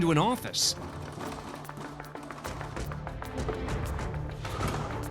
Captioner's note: rattling